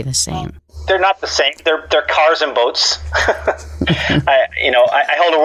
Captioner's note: laughs